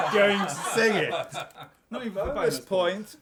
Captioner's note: laughter